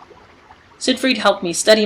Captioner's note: more water swirling